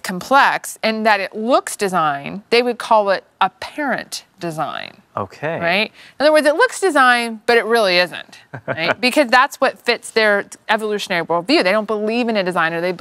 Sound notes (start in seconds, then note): 8.5 laughs